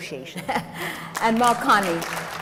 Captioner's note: audience applauds